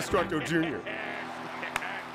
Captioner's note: laughing